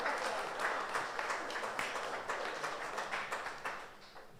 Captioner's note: audience applauds